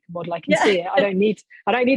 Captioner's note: laughing